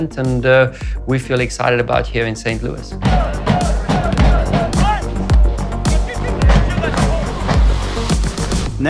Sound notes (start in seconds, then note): 3.0 people shouting; 3.0 people cheering